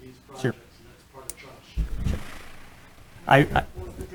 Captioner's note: voice fades